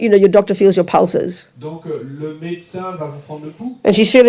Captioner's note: audience member speaks in French